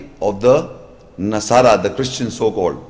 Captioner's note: Arabic